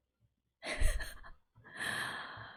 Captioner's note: laughs